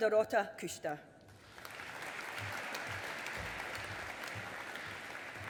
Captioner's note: audience applauding